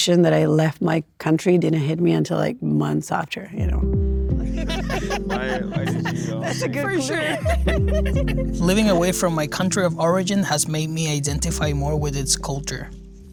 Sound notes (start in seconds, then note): 4.2 gentle music; 4.4 group laughing